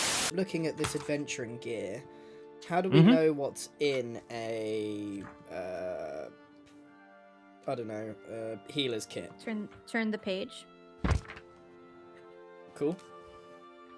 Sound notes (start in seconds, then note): 11.5 Grian turns page